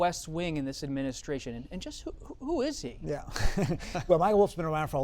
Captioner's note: laughter